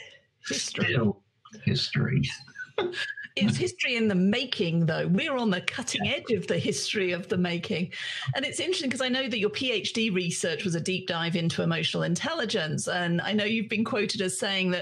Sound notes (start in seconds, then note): 3.2 chuckles